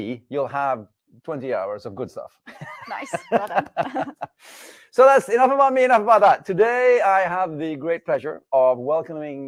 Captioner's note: laughs